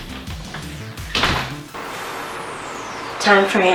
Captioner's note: door thudding